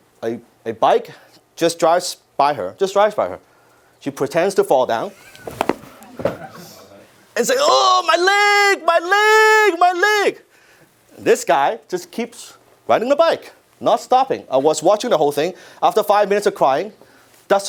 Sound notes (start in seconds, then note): 5.2 audience laugh